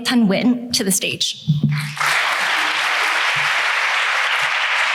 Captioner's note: applause